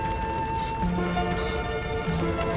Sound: both gasping

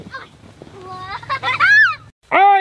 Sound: assistant squealing and giggling

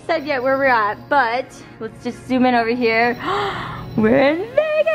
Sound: gasps

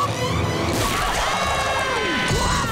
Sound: screaming

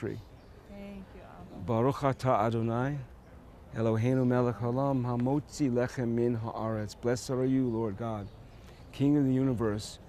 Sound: speaking hebrew

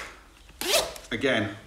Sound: zip opening

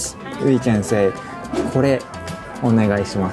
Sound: speaking in Japanese

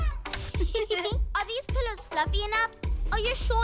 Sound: laughter

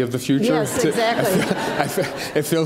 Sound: audience laughs

